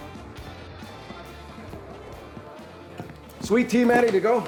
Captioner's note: footsteps